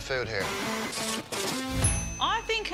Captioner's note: ding